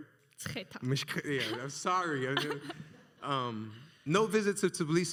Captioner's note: laughs